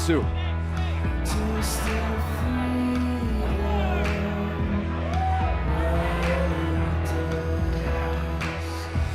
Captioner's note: crowd cheering